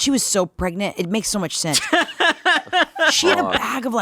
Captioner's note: laughing